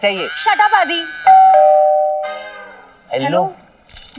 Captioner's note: Doorbell rings